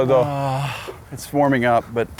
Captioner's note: gasps